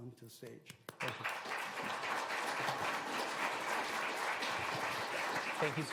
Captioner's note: applause